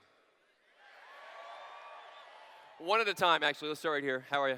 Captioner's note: cheers